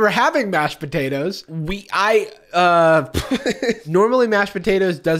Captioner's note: laughs